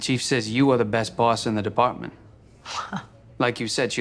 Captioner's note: chuckles